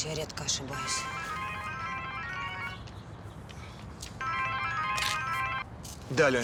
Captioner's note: phone rings